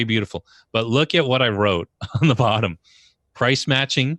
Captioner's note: laughs